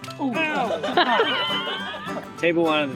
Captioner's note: laughing